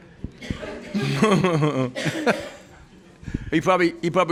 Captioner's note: laughing